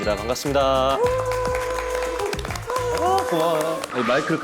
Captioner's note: apologetically cheers wildly